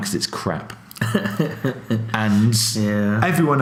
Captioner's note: laughs